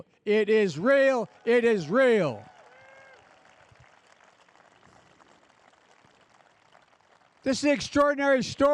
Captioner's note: applause